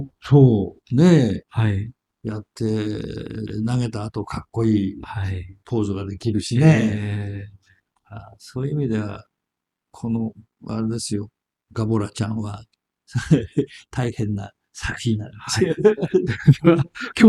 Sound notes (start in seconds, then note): 13.2 laughs